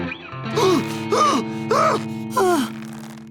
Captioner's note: moaning